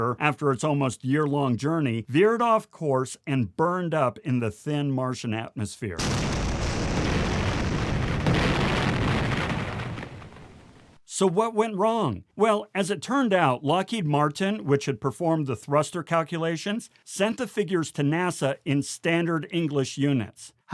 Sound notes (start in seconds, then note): 6.0 orbiter exploding